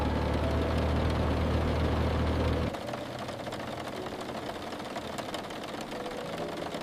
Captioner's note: rain on the roof of the moving truck